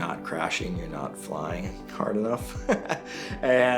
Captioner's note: laughs